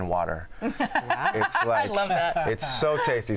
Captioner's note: laughs